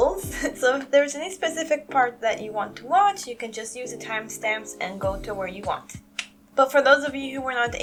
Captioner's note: tongue click